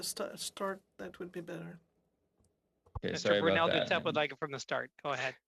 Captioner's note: speaking french